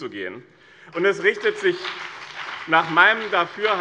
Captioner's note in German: Beifall BÜNDNIS 90/DIE GRÜNEN